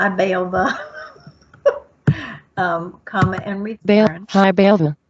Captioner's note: laughs